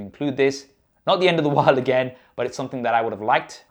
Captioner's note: chuckles